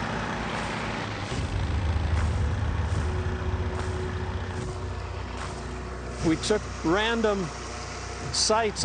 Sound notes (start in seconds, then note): 0.0 engine runs; 0.7 dramatic music